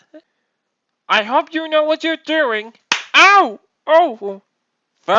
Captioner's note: slap